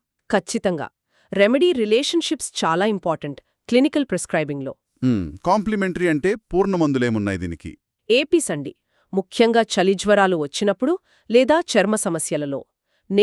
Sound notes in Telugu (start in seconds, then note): 5.0 గొంతు సవరించుకోవడం